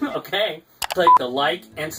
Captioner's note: click and beep